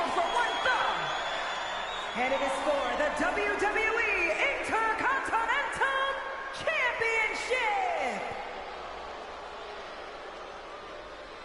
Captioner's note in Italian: Applauso